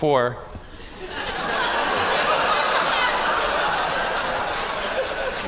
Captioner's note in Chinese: Laughter; 笑聲